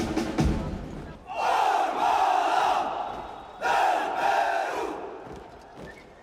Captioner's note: guard chanting in foreign language